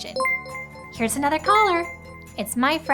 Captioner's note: ringing sound